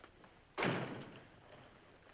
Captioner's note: door closes